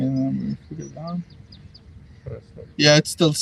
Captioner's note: birds chirping